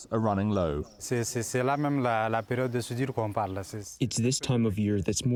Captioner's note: through translator